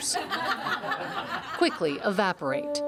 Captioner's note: laughter